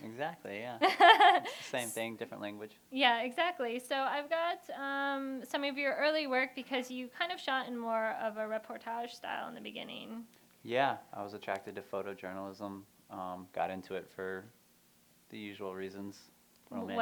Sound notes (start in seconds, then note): 0.8 laughter